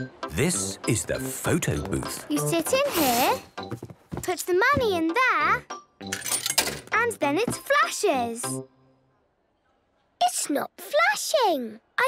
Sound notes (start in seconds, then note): 6.1 coin tumbling